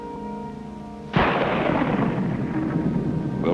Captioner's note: thunder rumbling